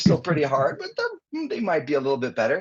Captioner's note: chcukling